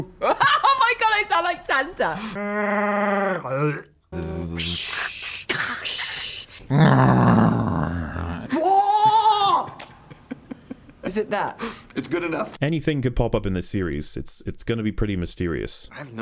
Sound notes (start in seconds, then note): 4.2 lightsaber noises